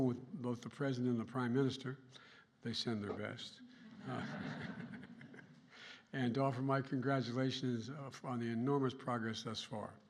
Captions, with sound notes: with both the President and the Prime Minister -- they send their best -- (laughter) -- and to offer my congratulations on the enormous progress thus far.